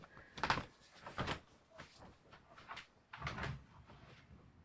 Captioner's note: footsteps creak